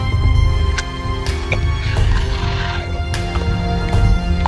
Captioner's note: gobbling